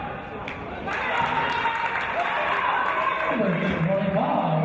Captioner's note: applause